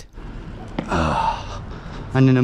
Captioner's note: grunts